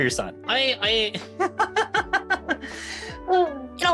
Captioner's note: laughing